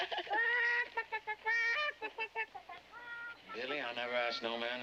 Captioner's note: Rubin laughs; Rainie imitates clucking